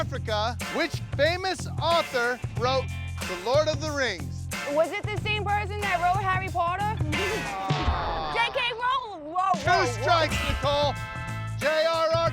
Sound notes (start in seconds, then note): 7.0 chuckles